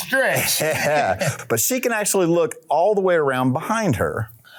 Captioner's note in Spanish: El Sr. Manos Desnudas se ríe